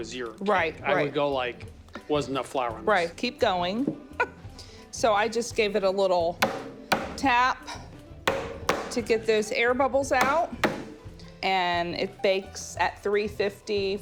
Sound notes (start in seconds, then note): 4.0 laughs; 6.4 loud knock